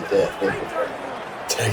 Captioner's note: crowd Noises